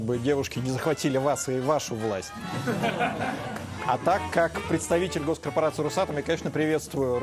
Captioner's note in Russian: смех